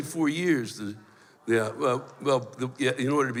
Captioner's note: stammers